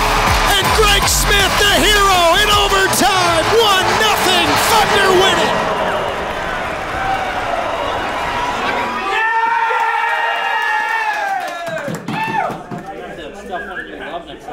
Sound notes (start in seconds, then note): 5.9 cheering